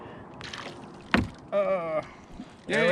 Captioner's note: fish splashing; thunk